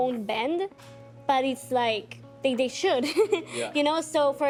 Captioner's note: laughing